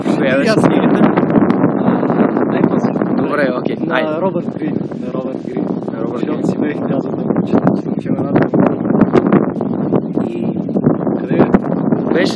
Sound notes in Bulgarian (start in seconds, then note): 1.3 чува се вятър; 9.4 чува се вятър